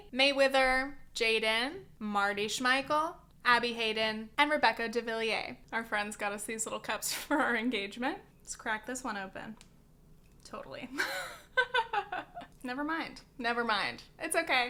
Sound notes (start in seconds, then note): 11.0 laughs